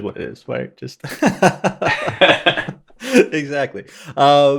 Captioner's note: laughing